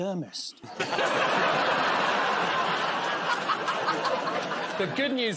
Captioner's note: laughter